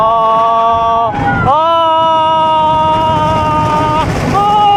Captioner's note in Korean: 아아아아아아아아아아